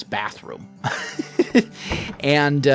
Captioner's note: laughs